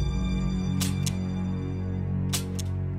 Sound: gun Clicking

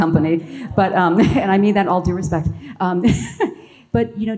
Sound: laughs

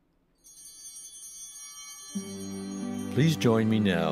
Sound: bell ringing

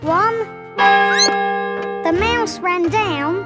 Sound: clock chimes; squeaks

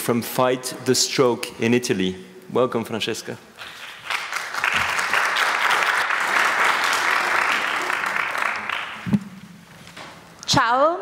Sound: applause

